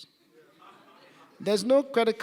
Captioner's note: laughing in audience